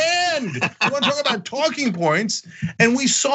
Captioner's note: laugh